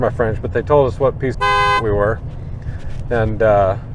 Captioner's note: car hoots